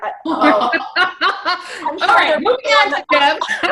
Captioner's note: laughs loudly